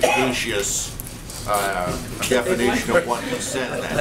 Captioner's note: laughter